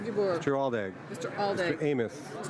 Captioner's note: speaking in french